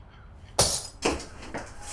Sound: glass Shatters

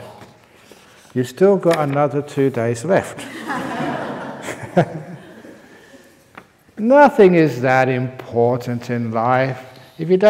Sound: laughter

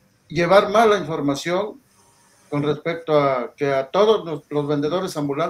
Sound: speaking in foreign language

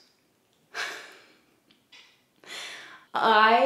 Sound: giggles

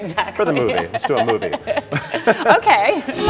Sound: laughs

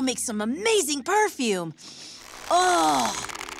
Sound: sniffs

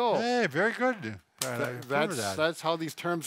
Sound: claps

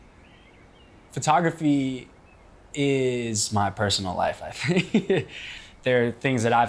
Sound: laugh

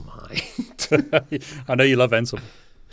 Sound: both laughs softly

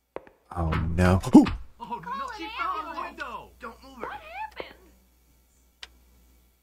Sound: terror hoot

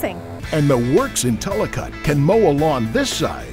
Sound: voiceover

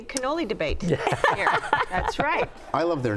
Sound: laughs loudly

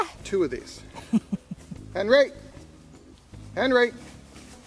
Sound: chuckles

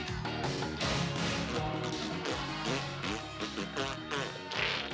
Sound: blowing raspberry

